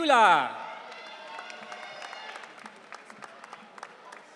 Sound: audience cheering

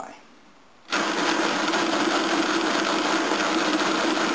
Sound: loud clacking noise

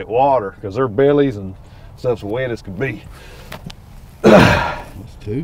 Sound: grunts

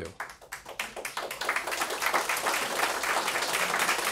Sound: audience clapping

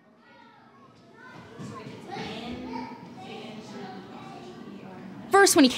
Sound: kids chatting

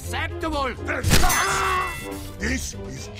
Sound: Spy screaming in pain

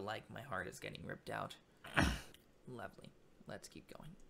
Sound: clears throat

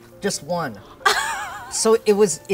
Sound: laughing

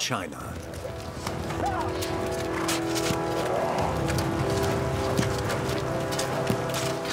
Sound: ominous music continues; tools scraping

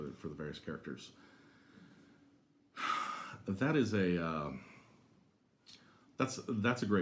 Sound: sighs

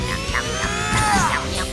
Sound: grunting

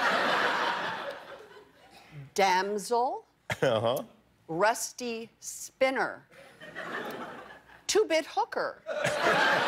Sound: laughter

